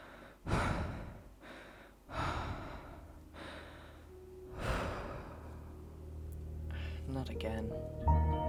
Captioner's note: deep breathing